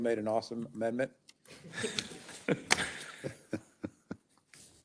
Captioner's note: members laughs